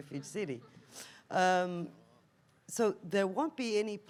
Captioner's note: audience laughs